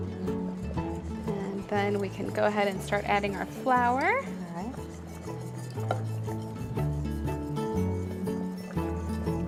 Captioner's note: boiling